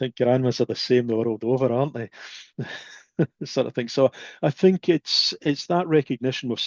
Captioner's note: laughs